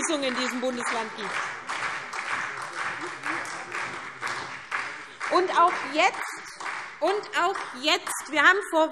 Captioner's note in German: Beifall SPD